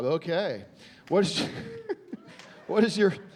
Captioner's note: chuckling